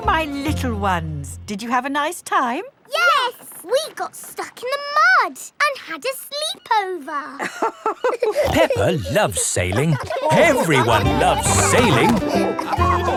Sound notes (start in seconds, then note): 7.4 both laughing